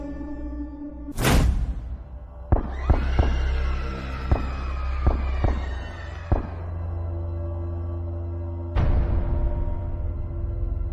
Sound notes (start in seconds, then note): 1.2 door slamming; 2.5 people screaming; 2.9 gunshots firing; 8.4 ominous music